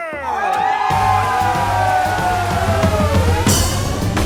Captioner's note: crowd cheers